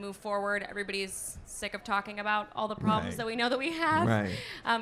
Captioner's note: laughs